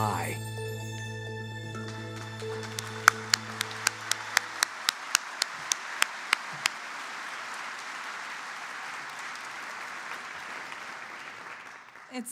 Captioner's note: applause